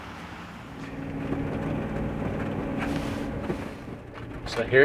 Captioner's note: vehicle rattling